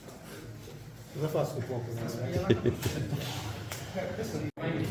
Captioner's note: giggles